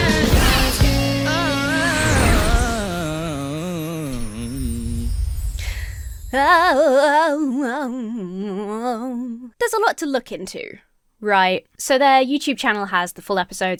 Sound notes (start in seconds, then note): 1.3 singer sings drawn-out melisma; 6.3 imitates singer